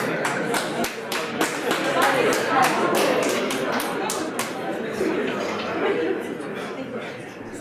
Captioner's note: audience clapping